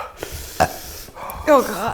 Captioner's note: burps